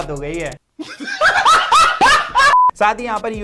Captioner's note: laughs